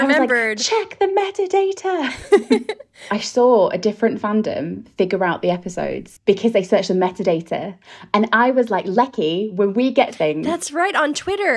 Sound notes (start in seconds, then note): 2.0 laughing